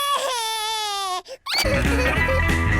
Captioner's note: cries